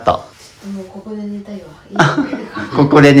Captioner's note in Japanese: 笑い